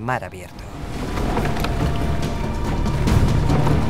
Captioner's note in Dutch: hout aan het breken